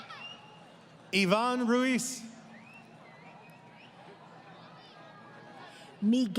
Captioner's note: crowd Cheering